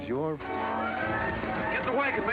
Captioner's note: people scuffling; dramatic music